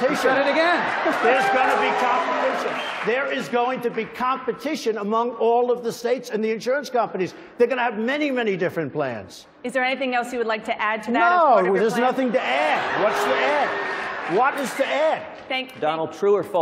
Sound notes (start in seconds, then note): 0.0 cheering; 2.8 applause; 12.0 cheering; 12.4 applause